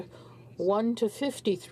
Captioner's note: speaking in French